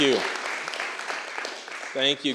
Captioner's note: applause